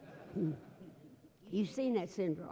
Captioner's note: laughter